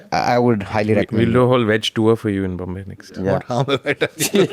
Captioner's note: laughs